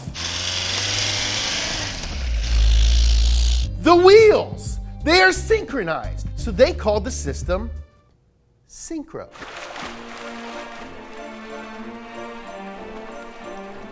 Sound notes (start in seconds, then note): 0.0 car engine revving; 9.3 water splashing; 9.4 whimsical music